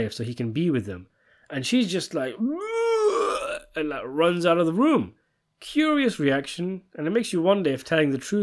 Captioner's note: puke noise